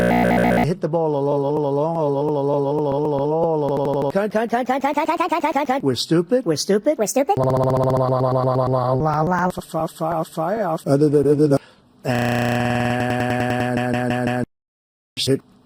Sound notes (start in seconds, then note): 11.6 quick breath